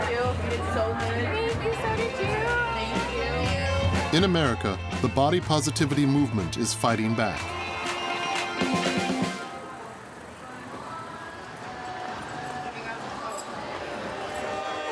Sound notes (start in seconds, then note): 7.5 chattering; 7.5 upbeat music